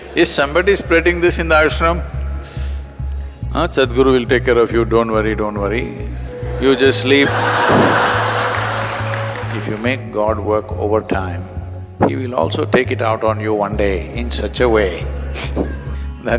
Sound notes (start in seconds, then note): 6.2 laughter; 15.5 laughs